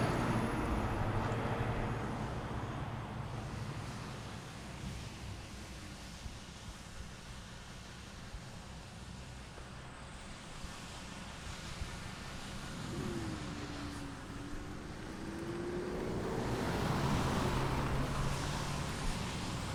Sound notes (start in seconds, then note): 0.0 vehicle engine roaring; 4.1 combine harvester rumbling; 16.0 vehicle engine roaring